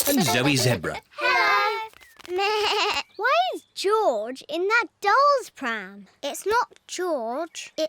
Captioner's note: bleats